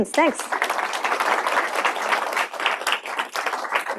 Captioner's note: applause